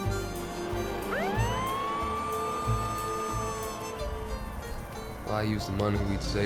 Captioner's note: police car motor starts, sirens wail